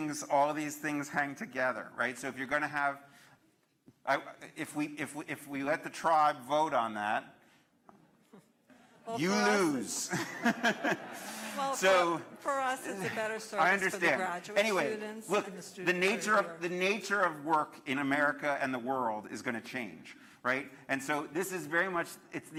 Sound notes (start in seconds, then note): 13.3 laughter